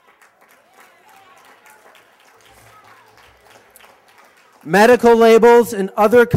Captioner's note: cheers and applause